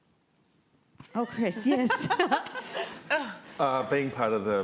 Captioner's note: crowd laughs